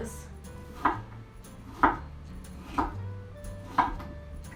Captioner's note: chopping pears